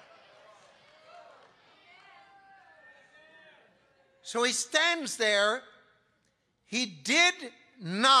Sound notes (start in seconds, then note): 0.0 congregation laughing; 1.8 congregation cheering